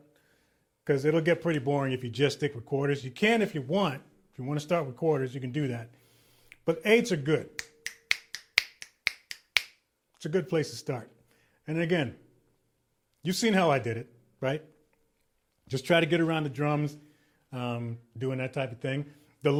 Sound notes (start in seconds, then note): 7.6 person clicking